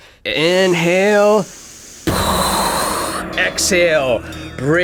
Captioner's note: imitating explosion